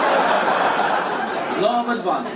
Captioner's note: audience laugh